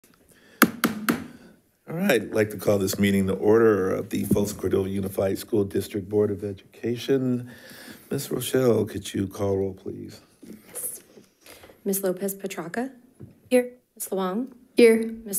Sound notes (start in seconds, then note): 0.6 gavel banging